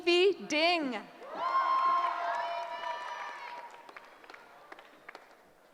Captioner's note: cheering